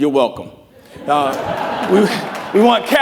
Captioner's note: laughing